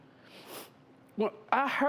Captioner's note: sniffling